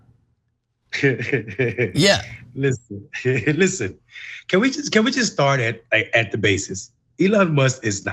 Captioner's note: laugh